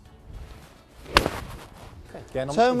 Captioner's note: golf ball cracking